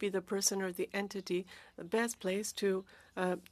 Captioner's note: speaking French